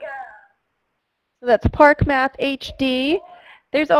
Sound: voiceover

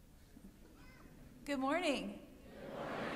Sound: louder

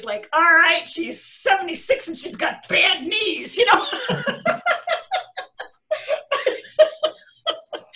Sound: laughter

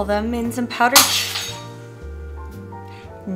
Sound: glass breaking

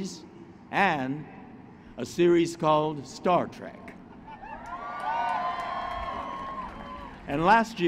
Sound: applause

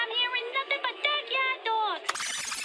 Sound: tape whirring

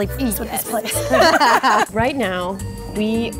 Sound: everyone laughs

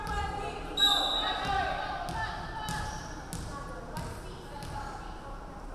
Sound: referee whistling

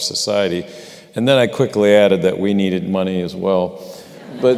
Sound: laughter

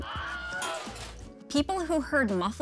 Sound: man screams

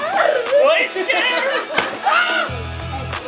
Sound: crowd laughs

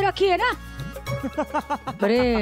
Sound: laughing

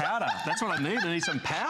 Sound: laughter

